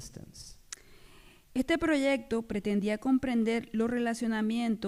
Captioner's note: speaking spanish